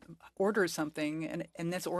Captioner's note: speaking French